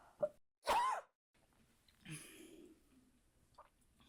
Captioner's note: Hana coughs